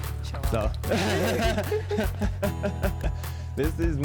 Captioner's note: both laugh